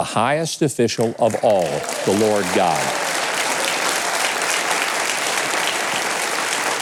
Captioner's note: audience applauds